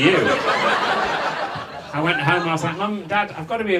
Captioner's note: audience laughs